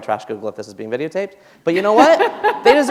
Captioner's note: laughter